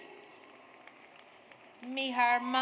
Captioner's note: audience applauds